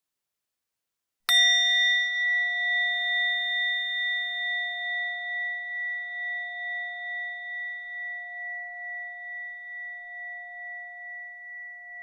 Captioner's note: bell sound